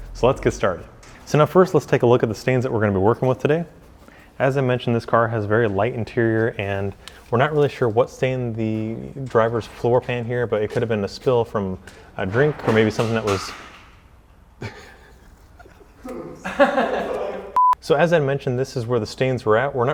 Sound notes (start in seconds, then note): 14.6 laughs